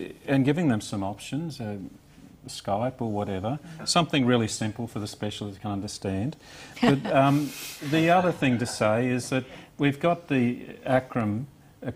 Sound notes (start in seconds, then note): 6.8 laughs